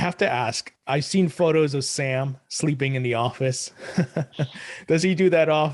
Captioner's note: laughs